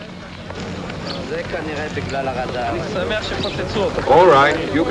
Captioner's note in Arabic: الناس يتحدثون لغة أجنبية